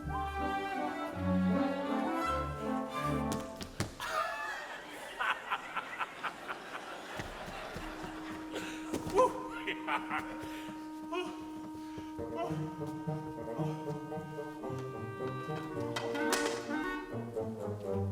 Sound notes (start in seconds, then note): 4.4 Frank laughs; 12.9 bright orchestra music